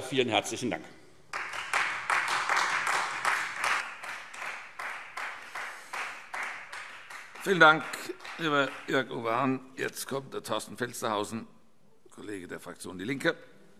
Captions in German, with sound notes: - Vielen herzlichen Dank. [Beifall Freie Demokraten] Vielen Dank, lieber Jörg-Uwe Hahn. - Jetzt kommt der Kollege Torsten Felstehausen, Fraktion DIE LINKE.